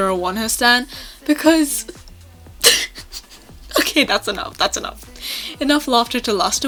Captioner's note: more laughter